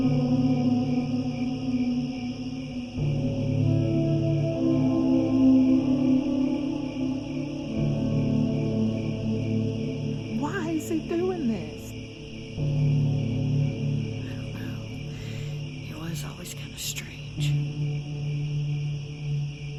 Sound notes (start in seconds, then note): 10.2 crickets; 13.5 crickets; 18.1 eerie music, crickets